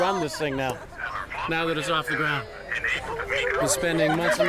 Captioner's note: garbled radio transmission